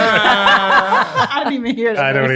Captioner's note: all laugh